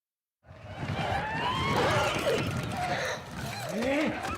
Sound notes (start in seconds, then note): 0.6 goblins growling